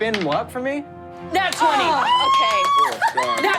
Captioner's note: screams